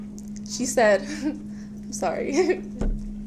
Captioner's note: laughs